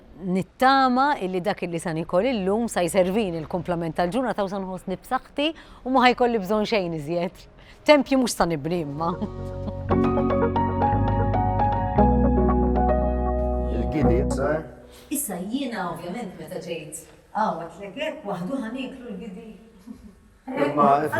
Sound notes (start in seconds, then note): 9.0 uplifting music; 9.2 chuckles